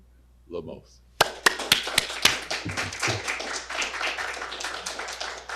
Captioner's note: audience clapping